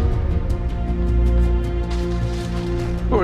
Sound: plastic crinkling

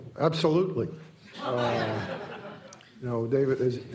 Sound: laughter

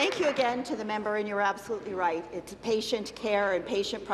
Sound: applause

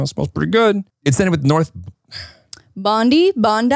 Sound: exhales

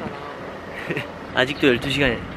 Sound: laughing

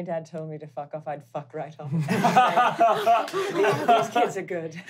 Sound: laughing

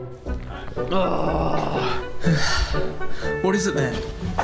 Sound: Bryce groaning

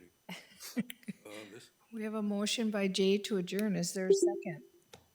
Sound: laughs

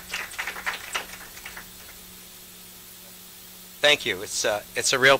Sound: applause

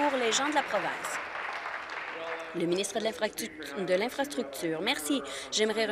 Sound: applause

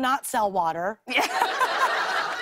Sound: laughter

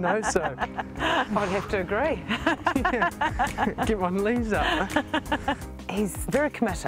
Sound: laughs; chuckles

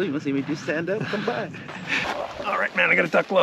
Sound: chuckling

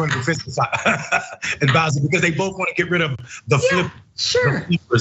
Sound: laugh

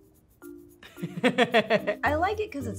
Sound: laughs

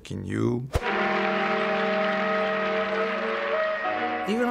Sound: applause

